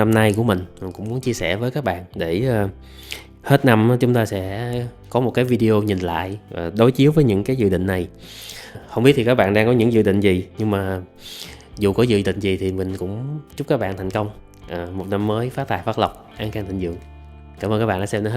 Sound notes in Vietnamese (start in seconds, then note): 11.2 khịt mũi